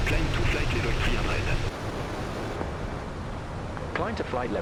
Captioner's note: radio chatter